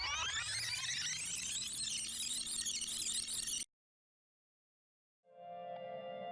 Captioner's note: record scratches, tape rewinds